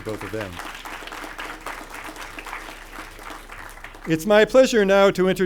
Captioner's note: crowd applauding